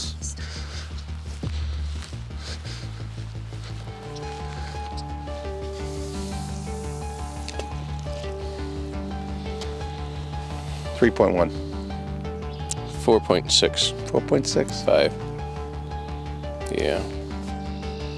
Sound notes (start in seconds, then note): 0.1 high intensity music; 5.8 fishing rod whirring; 5.8 sonar ball splashing